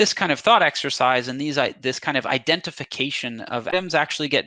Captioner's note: audio distortion